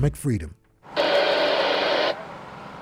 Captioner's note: radio static